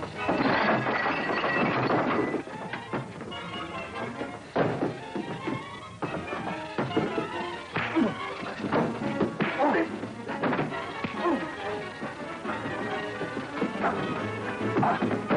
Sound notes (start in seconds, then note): 0.1 glass breaking; 7.8 punches landing; 11.2 man groaning